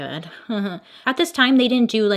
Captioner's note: slight chuckle